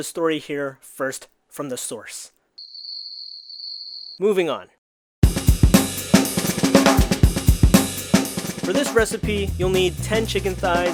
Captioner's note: crickets chirping